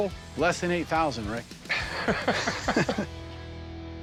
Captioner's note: chuckling